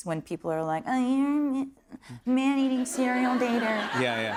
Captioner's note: whiny voice; normal voice